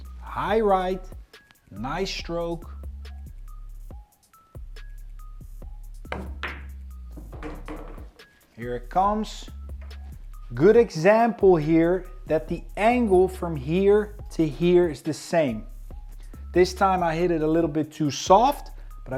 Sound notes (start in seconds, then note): 2.8 upbeat music continues; 7.0 ball bangs